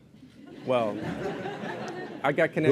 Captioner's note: laughter